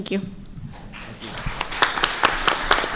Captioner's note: applause